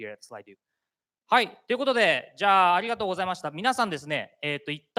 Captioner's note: speaking japanese